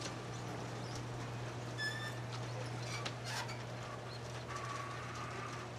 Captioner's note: garage door squeaking